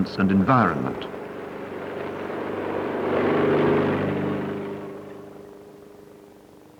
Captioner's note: vehicle rumbles down road